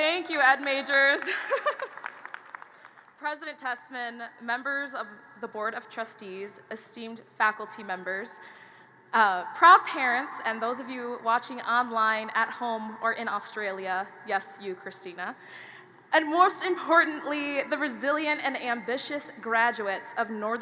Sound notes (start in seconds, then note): 1.2 chuckles